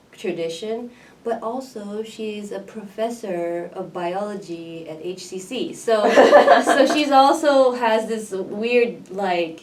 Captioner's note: laughs